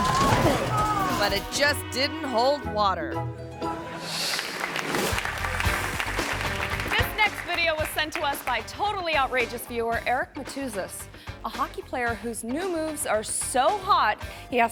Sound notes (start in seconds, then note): 3.6 audience laughing; 4.0 audience applauding